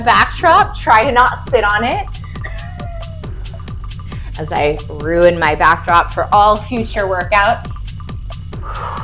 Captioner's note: laughs